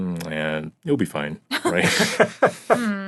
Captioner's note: laughing